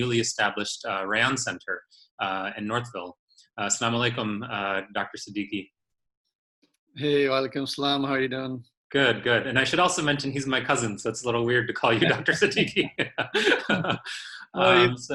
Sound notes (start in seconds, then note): 11.8 laughter